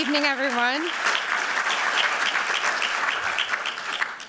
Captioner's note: applause